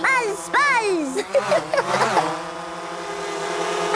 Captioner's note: Peppa laughing